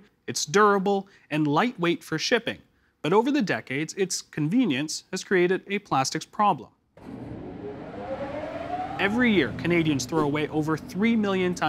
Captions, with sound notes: It's durable, and light-weight for shipping. But over the decades, its convenience has created a plastics problem. (Whirring) Every year, Canadians throw away over three million tonnes